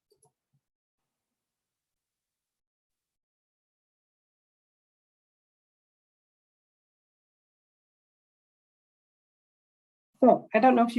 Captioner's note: no sound as video plays